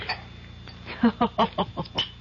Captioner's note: laughs